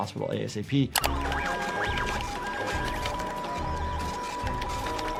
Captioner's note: machines beeping